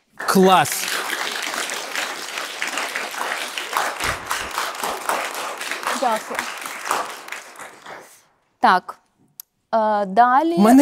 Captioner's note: applause